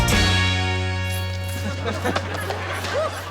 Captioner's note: audience laughs